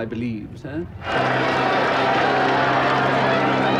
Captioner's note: cheering and whistling